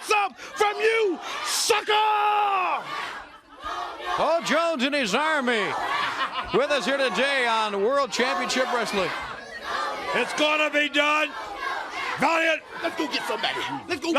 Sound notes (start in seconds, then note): 1.5 crowd cheering